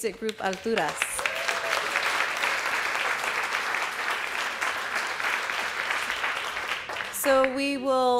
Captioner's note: applause